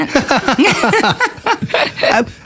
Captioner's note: laughter